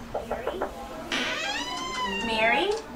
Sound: knocking on door; door creaking

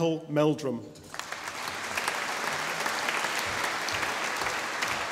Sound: audience applauding

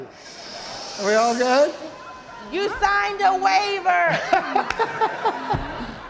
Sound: audience laughing

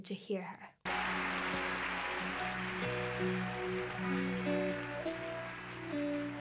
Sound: crowd applauding; soft guitar music

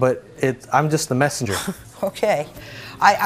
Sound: laughs

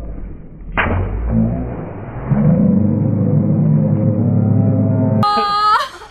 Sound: slow-motion low shouting

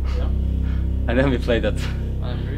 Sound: laughs

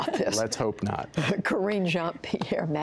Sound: laughter

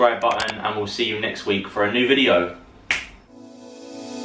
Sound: snaps fingers

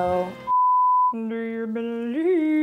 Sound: beep

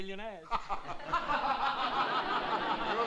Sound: laughter

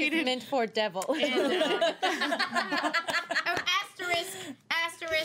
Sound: girls laughing

